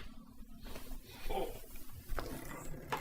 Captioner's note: groan